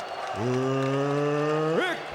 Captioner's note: applause